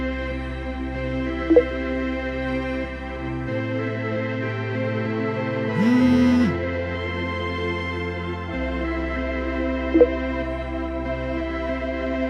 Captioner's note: phone Vibrating